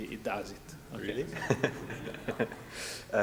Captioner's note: laughs